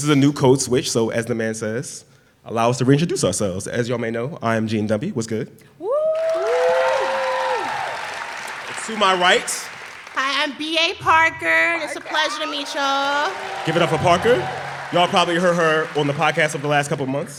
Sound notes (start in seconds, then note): 6.1 applause